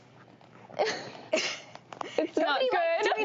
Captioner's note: groans